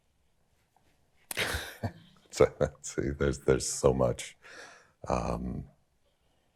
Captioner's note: chuckling